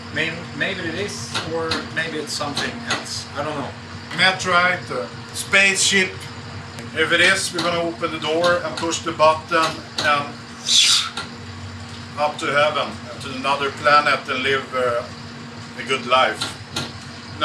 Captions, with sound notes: Maybe it is, or maybe it's somet I don't know. - Meteorite, spaceship, if it is we're going to open the door, an push the button. (whistling quickly) Up to heaven, up to another planet, to live a good life.